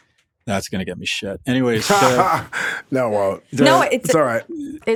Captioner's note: laughs